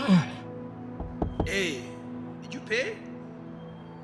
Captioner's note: gasps; knuckles rapping